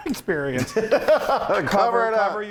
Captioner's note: laughs